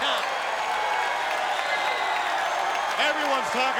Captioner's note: crowd cheering and clapping